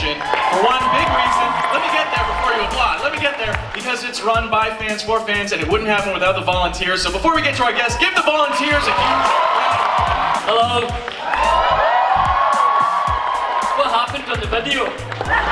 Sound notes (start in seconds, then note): 9.7 crowd Cheer